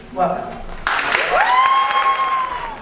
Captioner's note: audience cheers and applauds